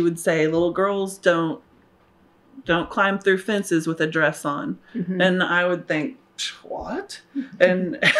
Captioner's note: laughs